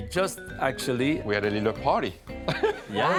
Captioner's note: laughs